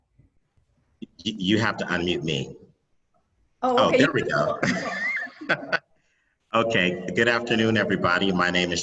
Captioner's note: laughs